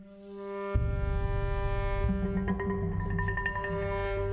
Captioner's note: horn blowing